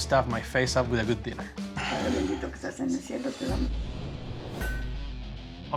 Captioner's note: speaking spanish